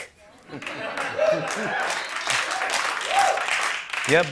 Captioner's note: laughs; cheers and applause